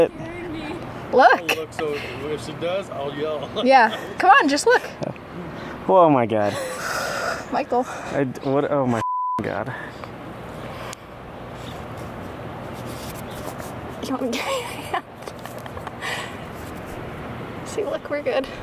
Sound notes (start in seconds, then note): 3.3 laughs; 6.5 exhales; 14.3 laughing